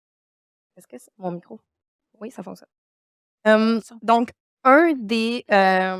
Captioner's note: speaking French